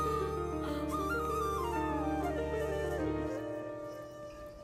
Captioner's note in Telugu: none